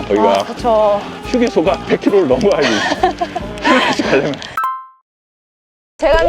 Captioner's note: laughter